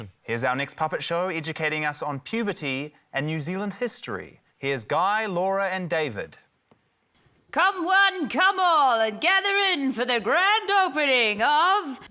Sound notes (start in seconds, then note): none